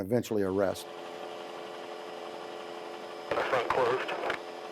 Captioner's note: loud helicopter rotor